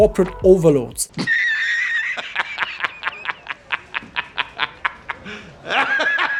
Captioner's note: laughing